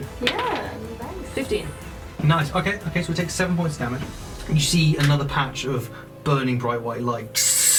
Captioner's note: sizzling sound